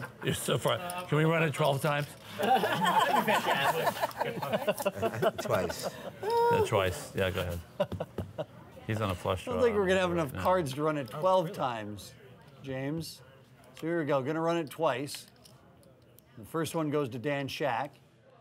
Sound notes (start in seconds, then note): 2.3 laughter